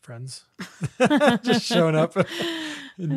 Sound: laughs

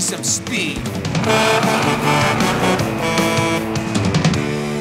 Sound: Blaze honking

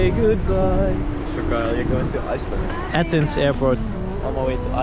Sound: bit jealous voice

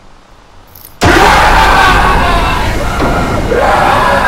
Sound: screaming

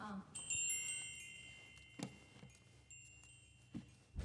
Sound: wind chimes

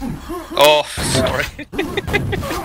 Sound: laughing

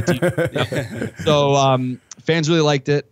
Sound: laughter

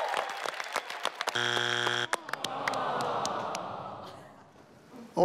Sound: audience clapping; buzzer buzzes

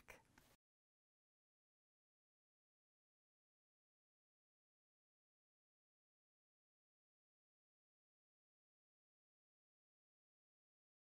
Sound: no Sound Present

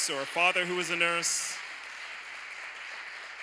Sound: applause

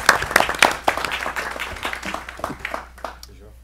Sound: applause

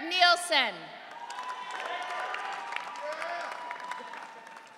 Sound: audience cheering

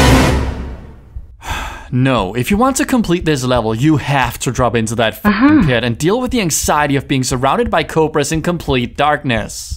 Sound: sigh

